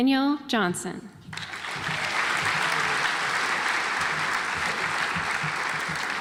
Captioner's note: audience applauds